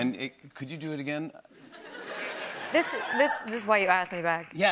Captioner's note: laughter